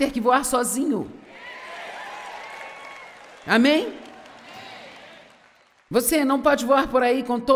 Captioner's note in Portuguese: audiência aplaude